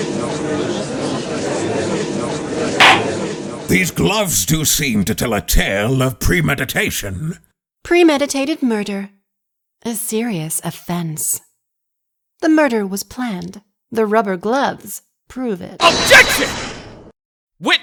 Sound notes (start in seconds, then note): 0.0 gallery chattering; 2.8 gavel slams!